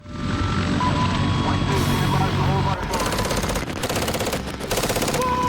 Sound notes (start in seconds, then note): 0.8 helicopter and radio chatter; 3.0 automatic gunfire